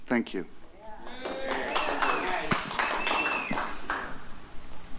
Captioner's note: applause